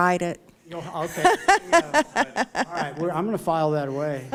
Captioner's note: laughter